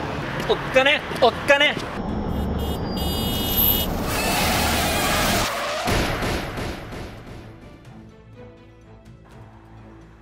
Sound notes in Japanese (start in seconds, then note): 2.2 クラクションの音; 3.6 ぶつかる音; 3.6 ブレーキ音